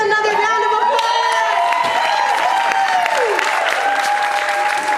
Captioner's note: audience applauding